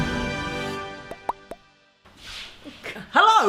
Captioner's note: popping